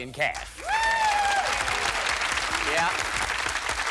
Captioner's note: applause